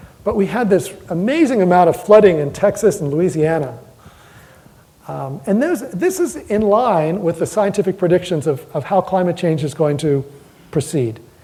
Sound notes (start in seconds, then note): none